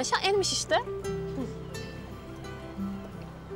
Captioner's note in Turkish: Gülüyor